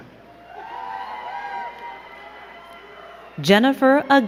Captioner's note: crowd cheering and clapping